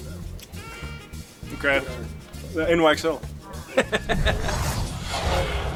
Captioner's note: laughter